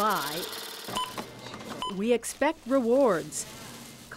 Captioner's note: scanner beeps